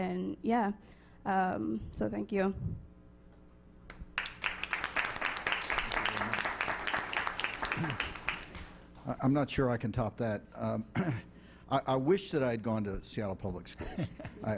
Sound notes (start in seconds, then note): 4.1 applause